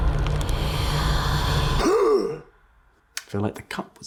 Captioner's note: little flour belch